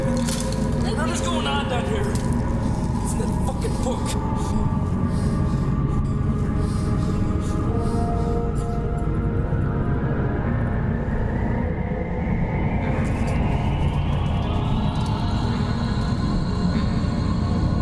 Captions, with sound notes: - Don't worry about that. - Whatever's going on back here, it's in that fucking book. (breathes heavily) (ominous music) (ominous music)